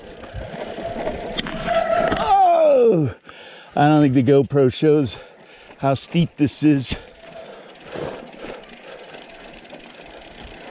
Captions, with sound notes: [light wind noise] [bike brakes squealing] Ohh! I don't think the GoPro shows how steep this is. [heavy breathing] Whew!